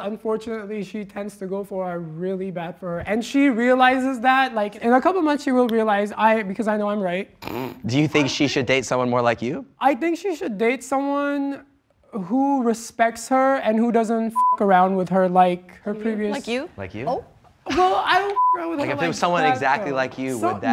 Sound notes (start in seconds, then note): 14.3 beep; 18.3 beep